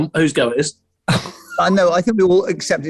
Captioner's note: sniggering